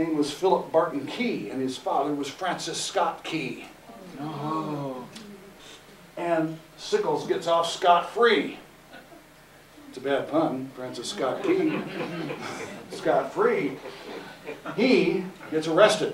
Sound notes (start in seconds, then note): 11.4 laughter